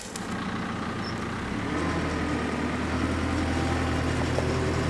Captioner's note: engine rumbling